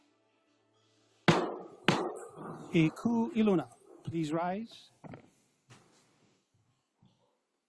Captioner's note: gavel bangs twice